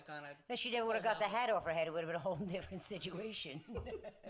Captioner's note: laughing